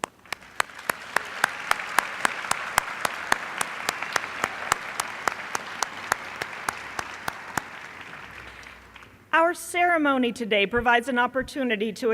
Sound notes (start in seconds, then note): 0.0 applause